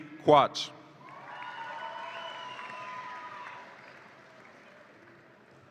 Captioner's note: audience applauds and cheers